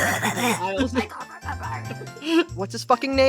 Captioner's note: mimicks with a growl; goblin growl